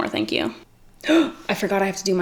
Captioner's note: gasps